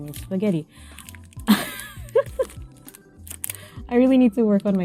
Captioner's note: laugh